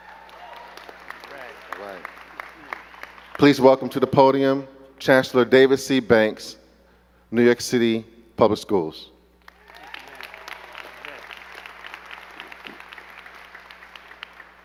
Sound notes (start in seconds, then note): 0.0 crowd cheering and clapping; 9.4 crowd clapping